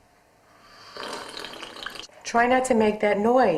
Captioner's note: slurping